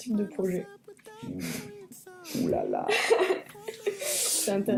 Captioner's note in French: rire